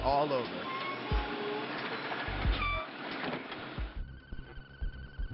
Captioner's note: metal screeching